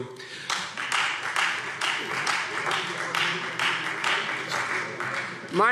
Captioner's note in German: Beifall Freie Demokraten